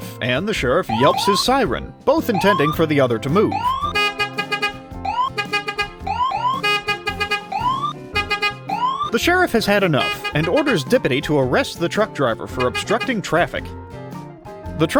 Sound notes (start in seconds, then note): 3.3 beep beep, woop woop